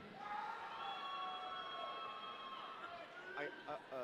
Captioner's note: audience cheering